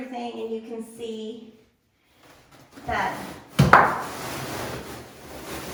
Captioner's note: cloth tears